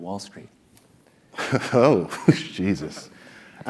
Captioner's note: laugh